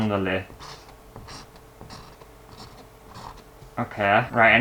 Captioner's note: pen Scraping On Canvas